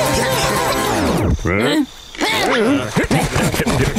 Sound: sighing; screaming

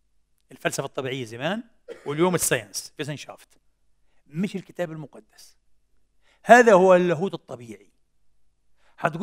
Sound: in German

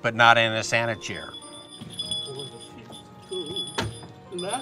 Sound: bells chiming

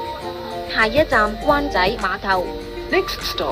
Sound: Cantonese

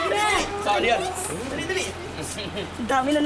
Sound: chuckling

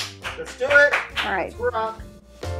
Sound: applause

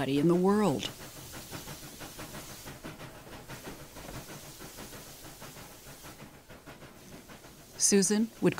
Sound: training chugging away

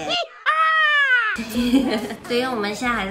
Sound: laughs

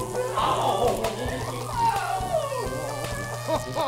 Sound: squealing

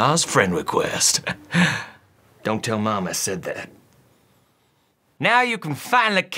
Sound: chuckles

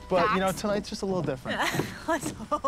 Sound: laughs

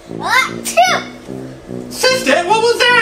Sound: sneezing

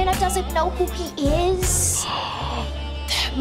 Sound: gasping

